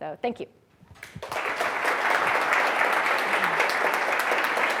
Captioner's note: applause